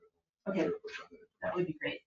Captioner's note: speaks distantly